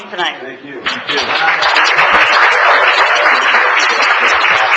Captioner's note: applause